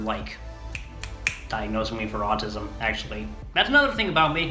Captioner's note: snapping